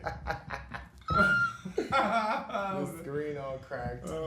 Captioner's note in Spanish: ambos ríen